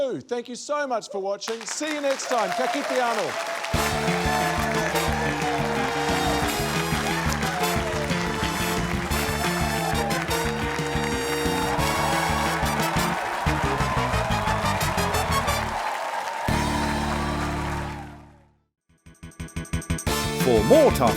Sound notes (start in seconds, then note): 5.2 cheering, applause